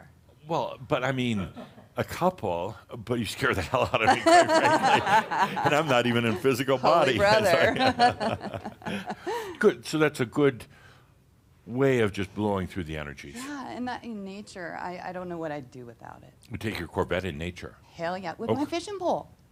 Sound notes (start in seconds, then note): 7.6 they chuckle